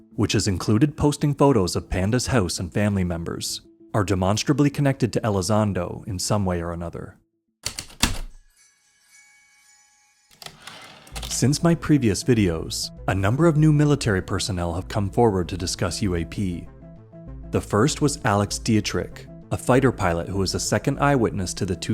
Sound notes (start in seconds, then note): 7.4 heavy typewriter keystrokes, light chimes, typewriter return slide